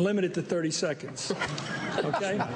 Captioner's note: laughter